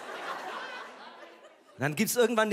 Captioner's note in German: Lachen